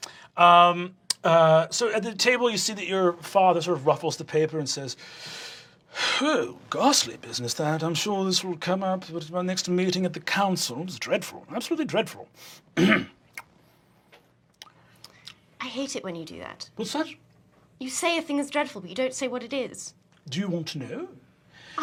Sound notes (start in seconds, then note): 5.8 snobby british; 12.8 clears throat